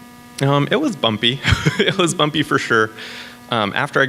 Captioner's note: laughs